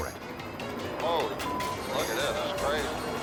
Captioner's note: beep